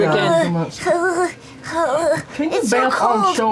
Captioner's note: shivering